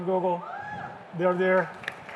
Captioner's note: cheers; applause